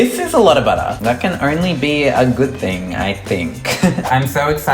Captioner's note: laughs